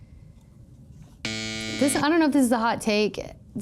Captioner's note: klaxon buzzes